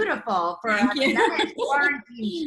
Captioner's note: laughs